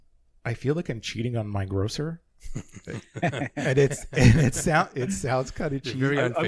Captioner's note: laughing